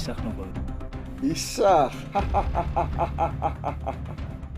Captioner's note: laughing